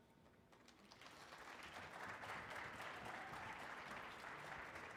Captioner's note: audience applauding